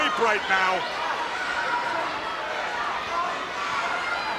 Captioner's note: crowd cheering